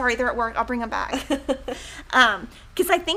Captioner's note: women chuckling